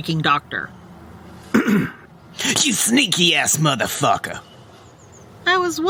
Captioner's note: clears throat